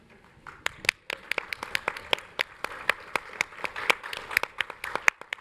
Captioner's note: audience applauding